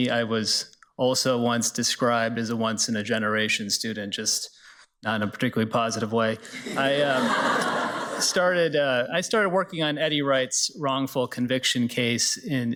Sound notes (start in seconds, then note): 6.5 everybody laughs